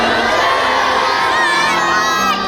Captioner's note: cheers